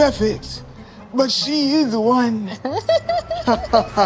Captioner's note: laughing